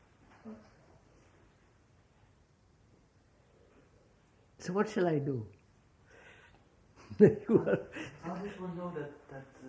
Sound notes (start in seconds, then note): 7.0 laughs